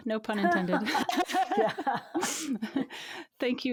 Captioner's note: both laughing